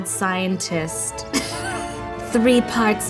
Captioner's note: laughing